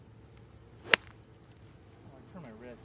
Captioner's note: golf ball thwacking